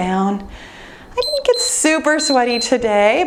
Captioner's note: timer beeps